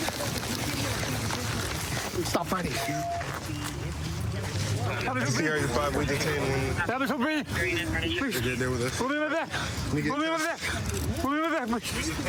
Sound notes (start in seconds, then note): 4.6 excited chatter